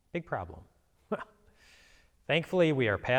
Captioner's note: chuckles